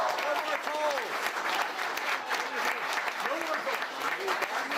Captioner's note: applause